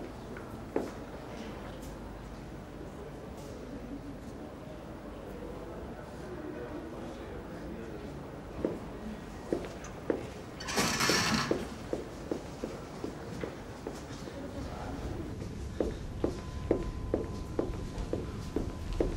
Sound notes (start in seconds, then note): 10.6 door opening; 15.5 footstep sound